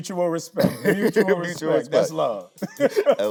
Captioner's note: Tyler laughing